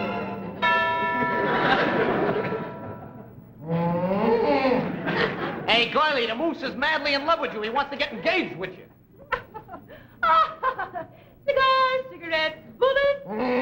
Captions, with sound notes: [BELL CHIMES] [GRUNTS] HEY, GIRLIE, THE MOOSE IS MADLY IN LOVE WITH YOU. HE WANTS TO GET ENGAGED WITH YOU. OH! [LAUGHS] CIGARS! CIGARETTES! BULLETS!